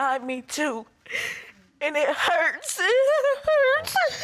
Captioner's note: sobs